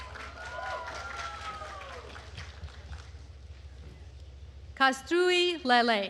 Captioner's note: attendees cheering and applauding